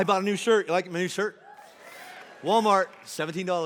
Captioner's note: congregation cheering; congregation applauding